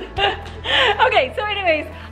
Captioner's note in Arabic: ضحك